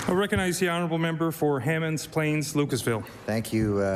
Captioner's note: applause